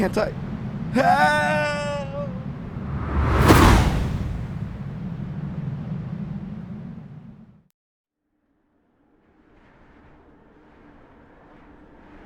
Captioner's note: woosh